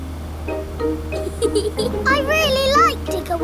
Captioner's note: george chuckling